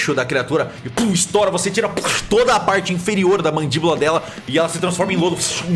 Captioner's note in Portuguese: pow